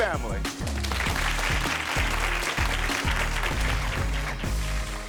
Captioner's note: audience applauding